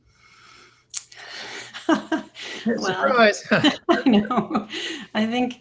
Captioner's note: laughs